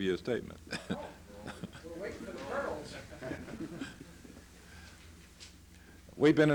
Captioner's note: laughter